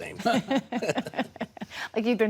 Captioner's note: laughing